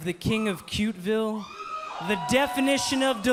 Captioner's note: cheers & boos